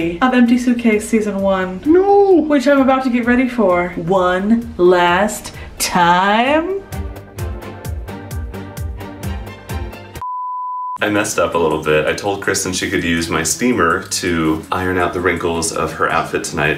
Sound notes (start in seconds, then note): 5.8 upbeat music; 10.2 beep